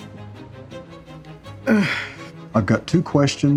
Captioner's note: grunts